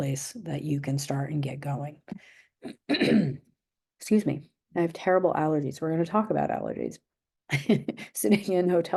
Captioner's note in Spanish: se aclara la garganta; risas